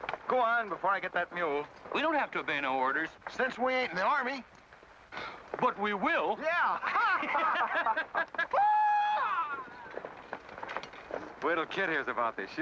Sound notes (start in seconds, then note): 6.7 men laugh; 8.5 Windy whoops excitedly